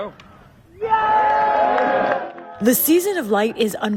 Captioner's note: cheering